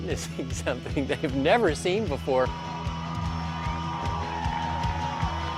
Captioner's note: crowd cheering